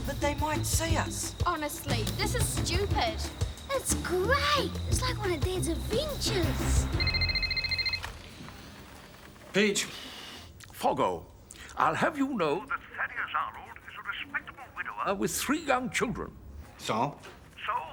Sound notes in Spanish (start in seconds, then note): 7.1 teléfono sonando